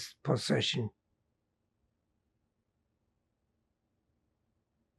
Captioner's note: pauses 6 seconds